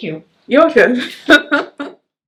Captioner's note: laughs